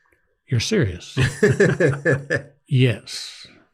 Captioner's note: laugh